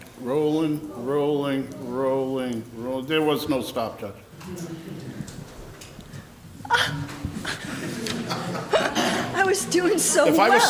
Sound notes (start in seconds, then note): 6.7 gasps; 8.3 laughs